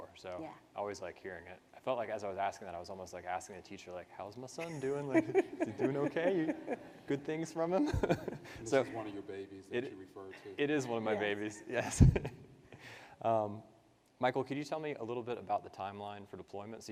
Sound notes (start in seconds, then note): 6.9 participants laugh; 12.4 laughs